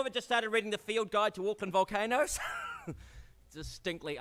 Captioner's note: laughs